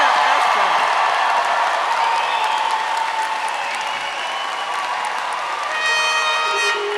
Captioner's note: applause and cheering; brass Quintet plays; applause and cheering